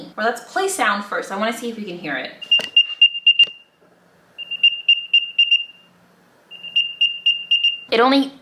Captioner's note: Music-AirTag Noise